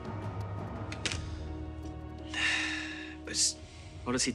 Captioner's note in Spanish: Pablo suspira